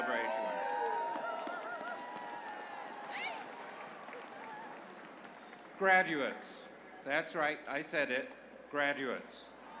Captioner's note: cheers